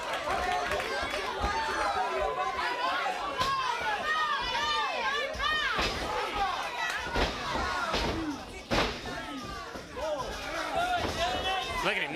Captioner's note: crowd chatter